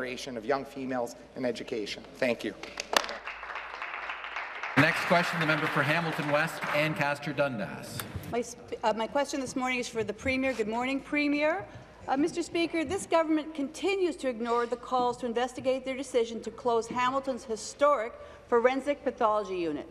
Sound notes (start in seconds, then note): 6.4 applause